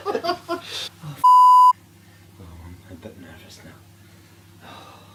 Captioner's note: beep